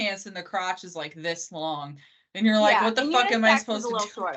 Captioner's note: both laughing